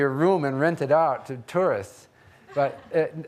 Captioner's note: audience laughing